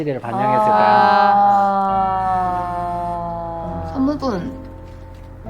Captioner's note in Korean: 깊은 탄식